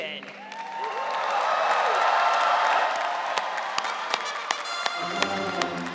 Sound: audience cheering

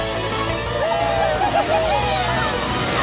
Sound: all cheering

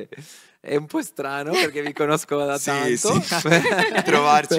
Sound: laughing

